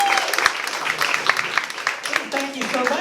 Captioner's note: applause